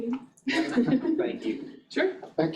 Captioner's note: chuckling